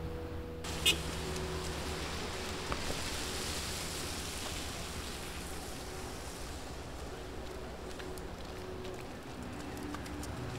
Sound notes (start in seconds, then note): 0.7 city sound